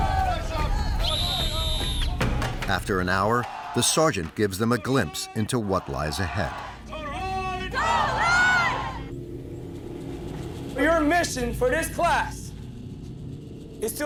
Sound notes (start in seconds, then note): 0.8 cadres yelling; 0.9 whistle blowing